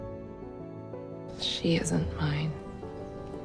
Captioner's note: voiceover